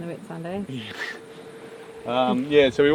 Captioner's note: chuckles